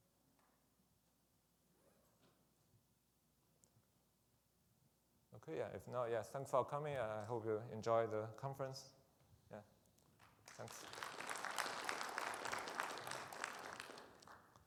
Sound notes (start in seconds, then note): 10.2 audience applauding